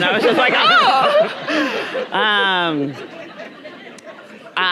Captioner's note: audience laughing